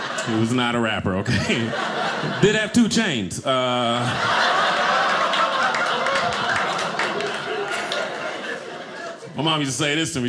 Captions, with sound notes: He was not a rapper, okay. (audience laughing) Did have two chains. (audience laughing) My mom used to say this to me.